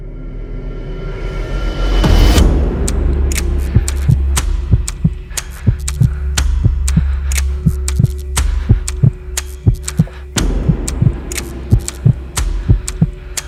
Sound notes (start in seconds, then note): 0.4 foreboding music; 5.0 heart beating; 5.0 nervous breathing